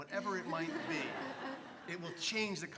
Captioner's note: laugh